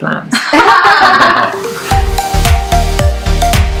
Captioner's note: laughs